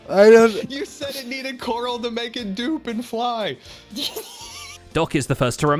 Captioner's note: baffled sounds